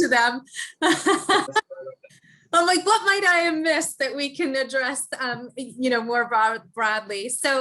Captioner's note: laugh